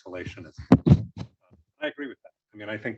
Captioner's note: microphone thumping drowns out speaker